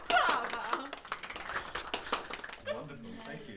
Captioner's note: people applauding